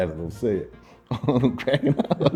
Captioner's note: laughing